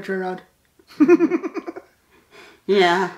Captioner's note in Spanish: Risas